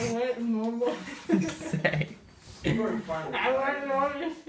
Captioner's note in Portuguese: risos